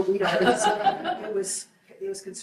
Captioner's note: group laughs